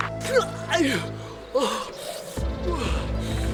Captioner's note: Night groaning